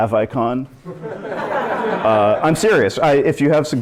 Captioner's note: laughter